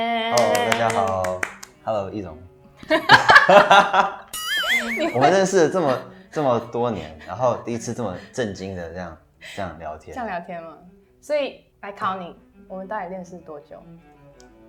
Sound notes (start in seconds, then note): 2.8 laugh